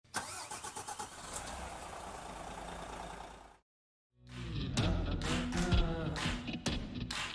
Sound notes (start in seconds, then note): 0.1 car engine starting noise; 4.2 upbeat music